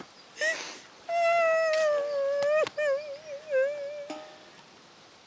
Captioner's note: Helen wailing